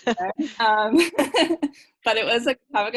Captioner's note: laughing